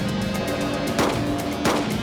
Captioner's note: two gunshots